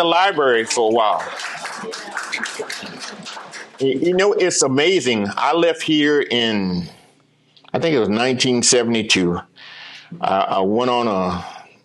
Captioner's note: applause